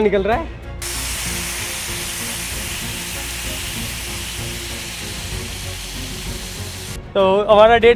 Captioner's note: frying sound